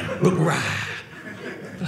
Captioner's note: audience laughing